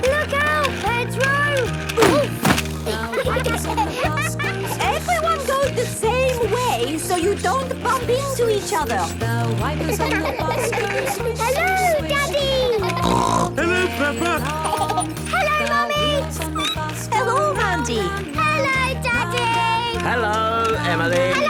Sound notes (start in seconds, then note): 2.8 laughter; 9.8 laughter; 12.4 snorting; 14.4 laughter; 16.5 squeaking